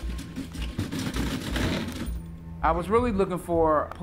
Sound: banging

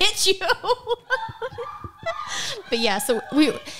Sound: laughing

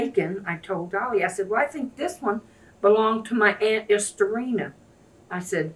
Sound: none

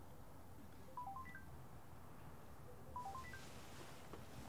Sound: phone ringing

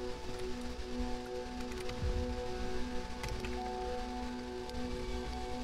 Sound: walking, breathing

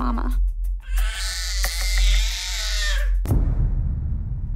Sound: baby yelling

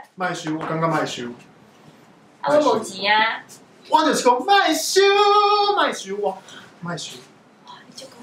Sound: both talking and singing in some kind of Taiwanese

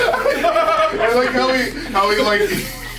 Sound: laugh

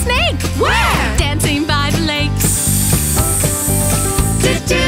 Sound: ssssssss

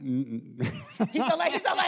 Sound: laughs

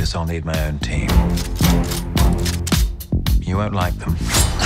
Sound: guns cocking

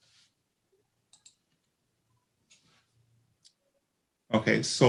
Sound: mouse clicks

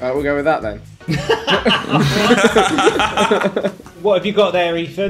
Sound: laughs

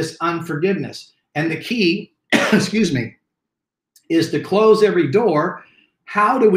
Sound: coughs

